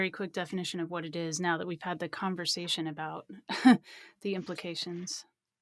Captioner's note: laughs